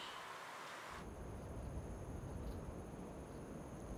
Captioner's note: wind rustling